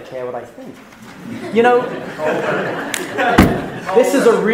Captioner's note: laughing